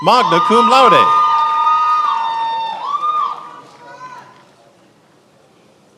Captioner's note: attendees applauding and cheering